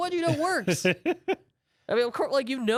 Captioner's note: laughs